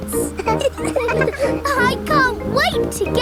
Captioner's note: all laughing